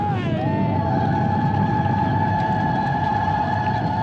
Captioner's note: cheering